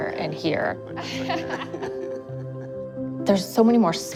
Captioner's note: laughter